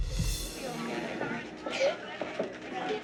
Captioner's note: crying